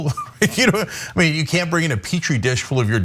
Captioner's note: laugh